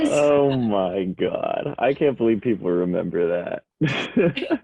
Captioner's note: laughs